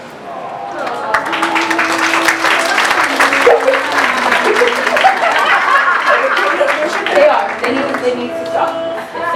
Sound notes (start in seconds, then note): 0.7 applause from Audience